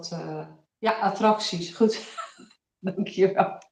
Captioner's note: laughs